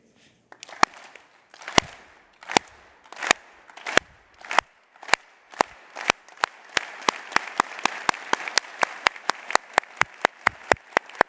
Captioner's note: clapping